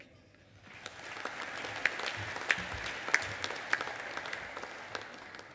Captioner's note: audience applauding